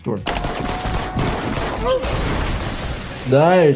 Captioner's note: gunshots firing again